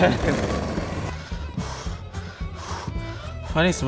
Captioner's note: labored breathing